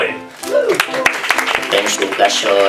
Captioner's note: applause